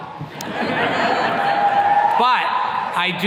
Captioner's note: attendees laughing